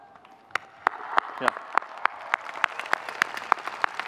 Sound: audience clapping

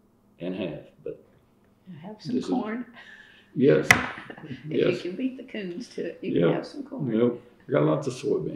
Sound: laughs

